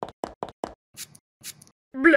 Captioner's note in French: pschit pschit